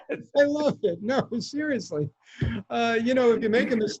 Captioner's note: laughing